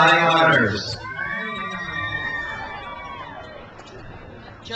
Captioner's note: crowd cheers